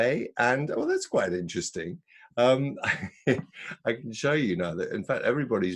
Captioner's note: laughs